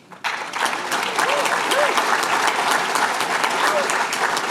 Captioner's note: applause